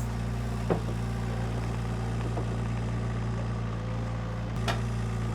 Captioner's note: engine rumbling